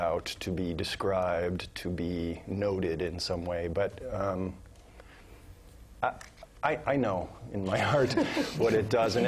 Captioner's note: laugh